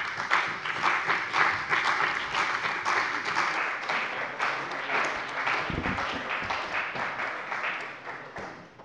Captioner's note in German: Beifall bei der CDU und dem BÜNDNIS 90/DIE GRÜNEN